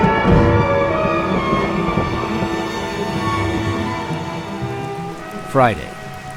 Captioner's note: intense music; voiceover